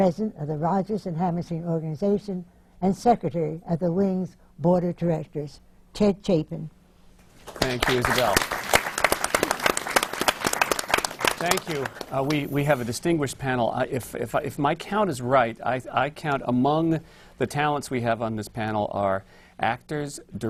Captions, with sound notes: the Rodgers and Hammerstein Organization and Secretary of the Wing’s Board of Directors. Ted Chapin. (APPLAUSE) Thank you, Isabelle. Thank you. We have a distinguished panel. If my count is right, I count among the talents we have on this panel are actors, directors,